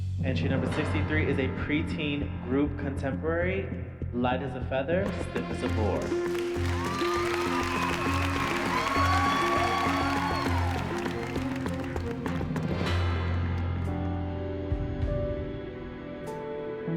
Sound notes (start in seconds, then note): 7.3 dramatic music; 9.5 cheers and applause; 14.2 moody music